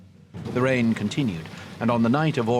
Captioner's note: rain pattering